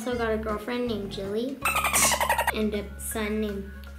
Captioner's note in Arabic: أصوات الدلفين